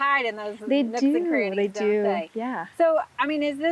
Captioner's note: faintly speaks